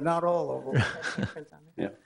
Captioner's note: chuckles